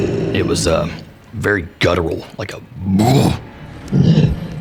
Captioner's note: roar